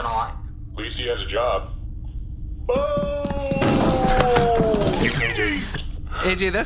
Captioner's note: yelling